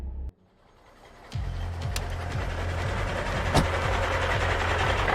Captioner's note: engine rumbling; door closing; dramatic music; engine rumbling